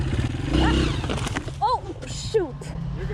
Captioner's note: crashing